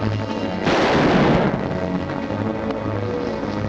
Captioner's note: gun fires; tense music